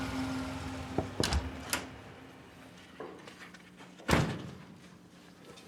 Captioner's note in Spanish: toques en la puerta